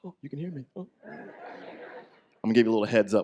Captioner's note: audience laughs